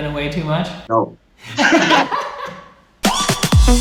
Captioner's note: all laughing; upbeat electronic music